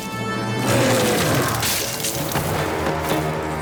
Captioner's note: loud growling